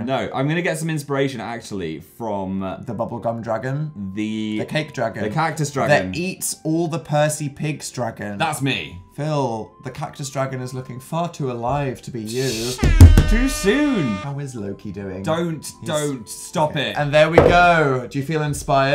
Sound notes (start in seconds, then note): 12.5 air horn; 12.8 bangs table